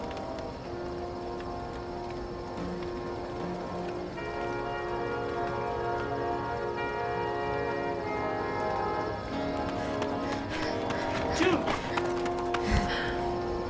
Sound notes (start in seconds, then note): 9.6 june panting